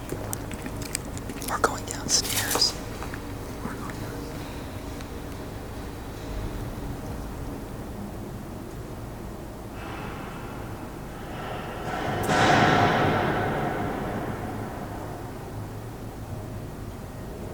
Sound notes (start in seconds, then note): 11.5 hammering continues